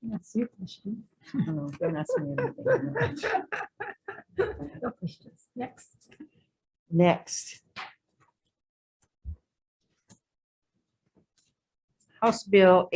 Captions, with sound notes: - Yes, you can choose. (laughs loudly) - Oh no, don't ask me anything. (both laugh loudly) Next, House Bill 1865, relating to Charter Schools,